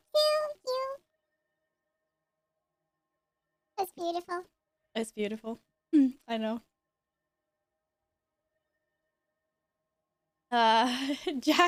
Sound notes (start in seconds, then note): 9.8 mute